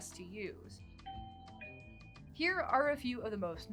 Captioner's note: doorbell chimes